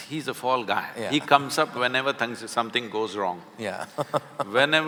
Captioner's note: Karan Johar laughs